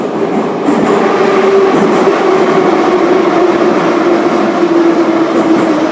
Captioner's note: braking - arrival at the station